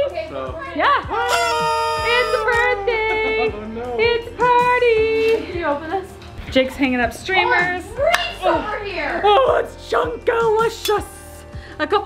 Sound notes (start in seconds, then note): 1.2 party blower whistles